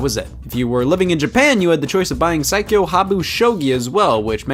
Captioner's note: reads title in Japanese